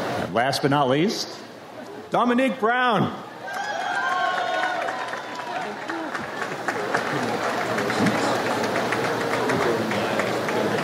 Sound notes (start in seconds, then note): 3.4 audience applauds